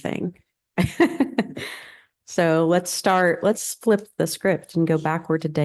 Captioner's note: laughter